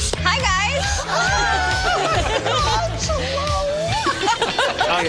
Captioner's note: people enthusing